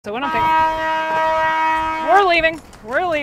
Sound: horn blaring

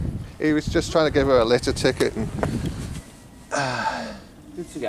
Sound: sighs

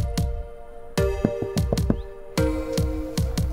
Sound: single, rhythmic tones

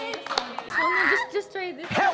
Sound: squeals

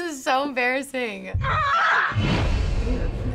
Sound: laughing; scream in trailer

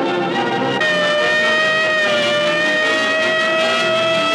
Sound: siren wailing

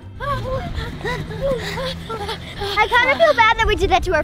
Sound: panting

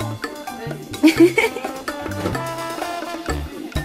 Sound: laughter

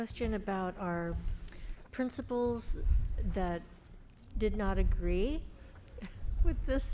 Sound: chuckles

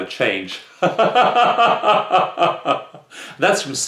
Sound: chuckle

